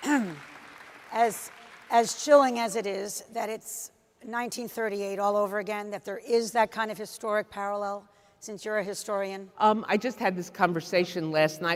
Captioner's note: applause